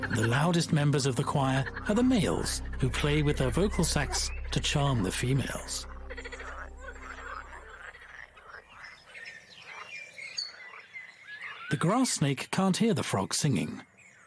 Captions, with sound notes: The loudest members of the choir or the males who play with their vocal sacs to charm the females. (frogs croaking) (birds chirping) The grass snake can't hear the frog singing.